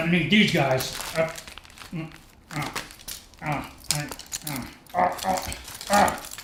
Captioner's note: grunting and struggling with scissors